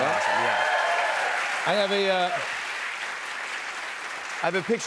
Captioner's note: cheers and applause